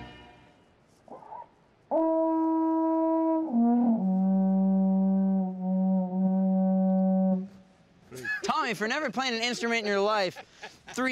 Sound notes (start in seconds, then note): 1.9 horn